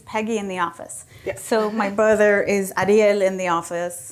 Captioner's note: laughs